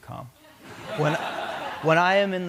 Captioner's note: laughter